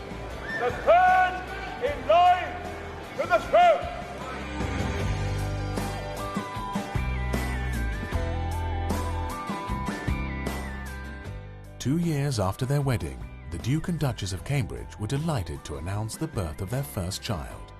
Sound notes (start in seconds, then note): 5.0 upbeat music; 11.5 voiceover